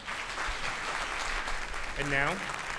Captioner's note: audience claps